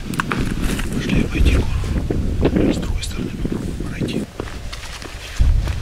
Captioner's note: whispers